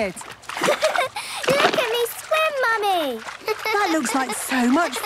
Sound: giggles

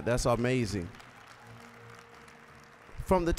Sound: applause

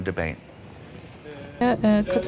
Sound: speaking foreign language

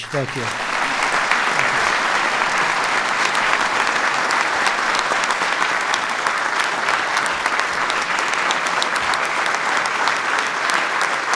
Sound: applause

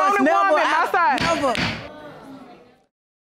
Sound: gavel pounds

